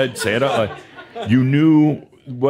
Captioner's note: some chuckles